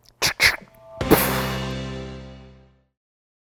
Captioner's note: gun shot